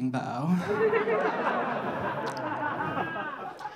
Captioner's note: audience laughing